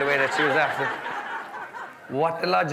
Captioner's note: guests laughing